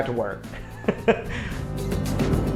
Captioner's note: chuckles